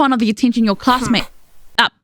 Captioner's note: disgruntled hum